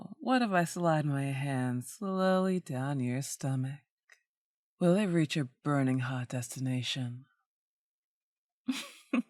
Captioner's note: laughter